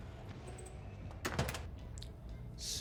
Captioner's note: door shutting